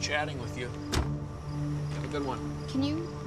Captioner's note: trunk hood thuds